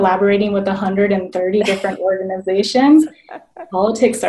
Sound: laughing

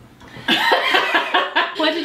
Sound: laughs

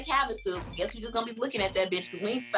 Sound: beep

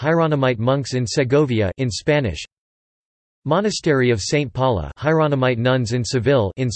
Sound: in Spanish

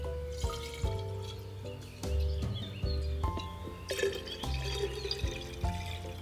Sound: liquid pours into bottle

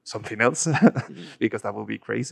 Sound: laughs

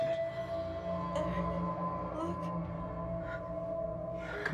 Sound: groaning

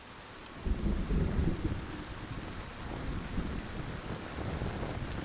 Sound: rain pattering; thunder rumbles

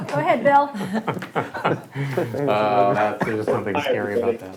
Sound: both laugh

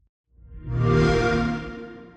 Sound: xbox whoosh

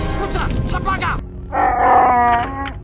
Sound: Chewy roars

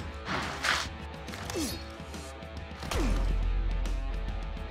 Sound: gruntrunting

